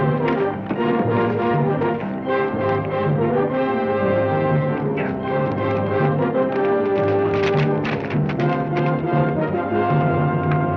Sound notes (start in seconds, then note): 6.7 hooves clack